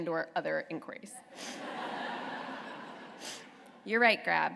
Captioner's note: laughter